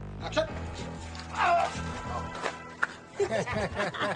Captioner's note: actor grunts; everyone laughs